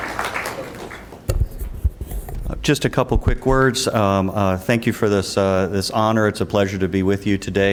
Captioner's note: applause